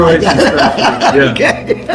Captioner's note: laughing